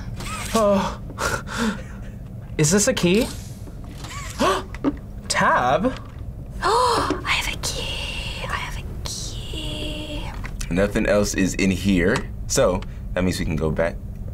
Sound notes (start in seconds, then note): 4.3 gasps; 6.6 gasps and whispers